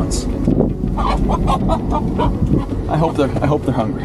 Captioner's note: chicken clucking